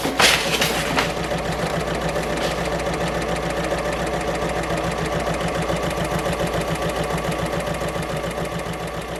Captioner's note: sewing Machine Sounds